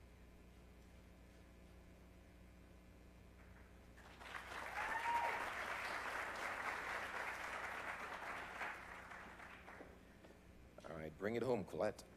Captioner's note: applause